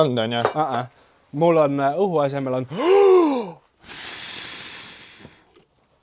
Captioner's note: inhales; blows